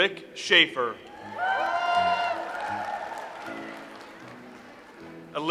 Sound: audience applauds

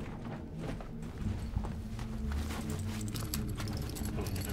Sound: keys rattling

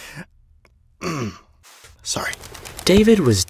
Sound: clears throat; whispering

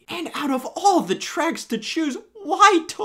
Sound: none

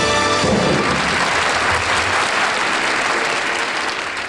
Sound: applause

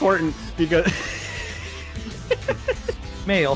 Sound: laughs

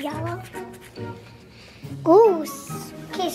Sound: sniffs

